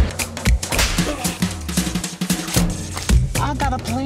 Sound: whip cracking

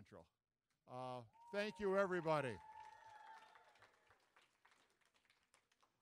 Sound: applause, cheering

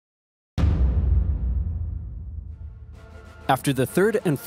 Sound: dramatic thud

